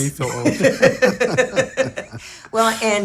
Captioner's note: laugh